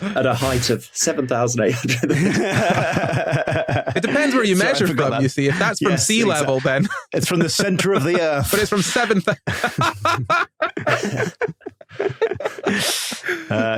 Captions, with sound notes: At a height of 7,800 metres. (group laughing) It depends where you measure from, you see. If that's from sea level, then... It's from the centre of the earth. But it's from 7— (laughs heartily)